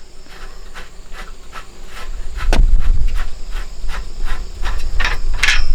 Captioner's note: clanking